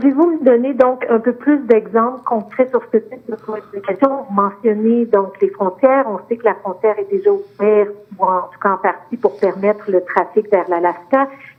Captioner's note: speaking French